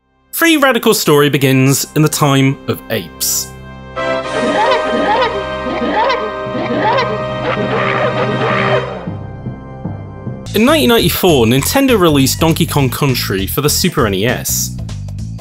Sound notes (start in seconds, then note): 7.1 Various Donkey Kong Grunts